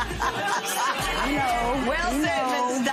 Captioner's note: laughs